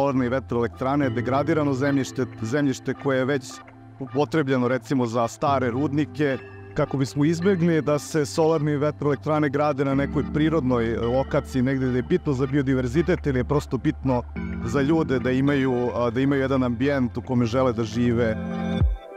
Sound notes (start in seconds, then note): 0.8 speaks Serbian; 15.6 speaks Serbian